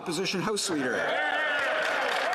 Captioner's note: applause